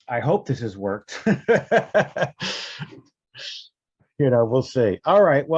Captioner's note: Brian laughing